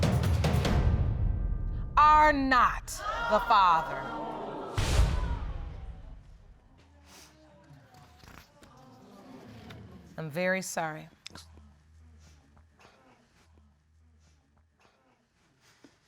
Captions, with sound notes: are not the father. [sniffling] I'm very sorry.